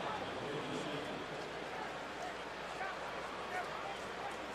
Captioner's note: pa announcement